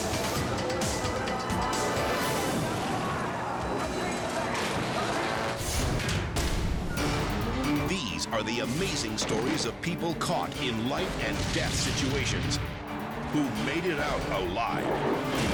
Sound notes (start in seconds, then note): 0.0 dramatic music; 0.0 engines rumbling; 4.0 metal crunching; 5.5 graphic booming; 7.3 dramatic music; 15.3 dramatic music